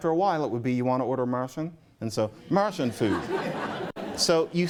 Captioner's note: laughter